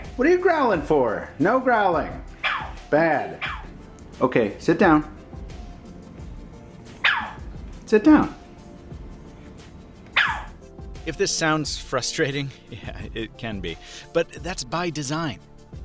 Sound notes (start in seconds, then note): 2.3 yapping; 6.8 yapping; 10.0 yapping; 12.7 laughing